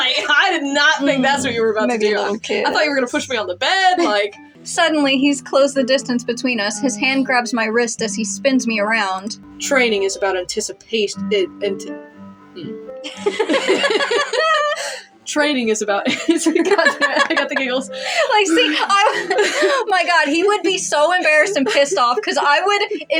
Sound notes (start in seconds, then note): 0.1 laugh; 3.9 chuckle; 11.3 stutter; 13.0 both Laugh; 16.3 laugh; 17.9 laugh; 20.0 laughing